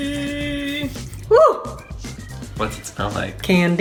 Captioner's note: gasps